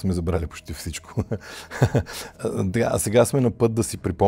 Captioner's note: laughter